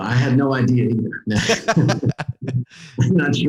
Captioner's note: laughing